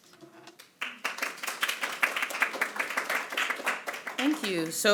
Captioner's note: audience applauding